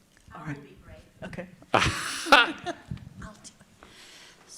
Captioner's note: laughs